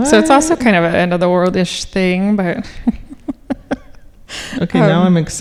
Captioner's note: laughing